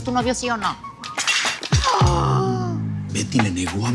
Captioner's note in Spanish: Grito ahogado